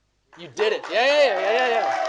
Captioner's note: audience applauding